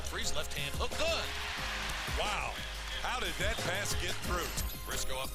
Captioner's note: cheering